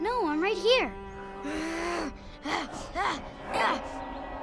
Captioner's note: grunting